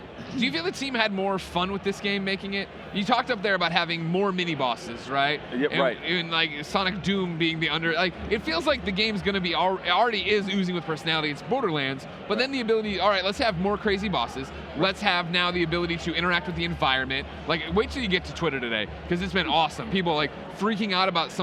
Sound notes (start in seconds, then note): none